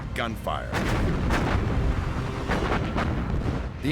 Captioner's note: gunfire